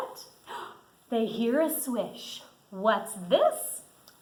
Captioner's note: gasps